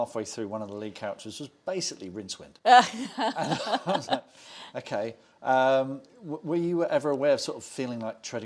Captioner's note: laughs